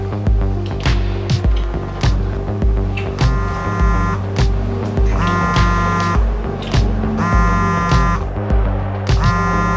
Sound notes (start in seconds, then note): 3.2 cell phone vibrating